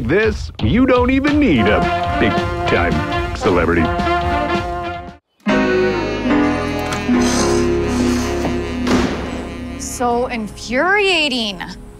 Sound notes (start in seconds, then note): 4.8 upbeat music; 7.0 door slams